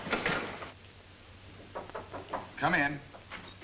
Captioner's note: knocking at door